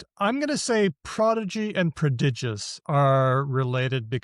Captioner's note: none